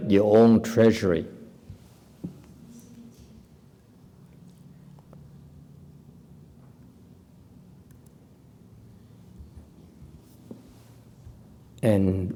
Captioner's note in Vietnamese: typing